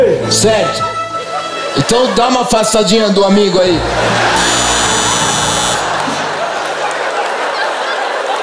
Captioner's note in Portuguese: campainha